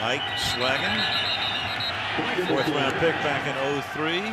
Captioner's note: whistle